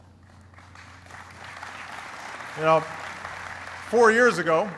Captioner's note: applauding